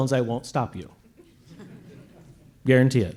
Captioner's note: laughter